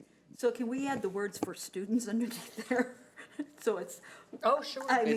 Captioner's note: chuckles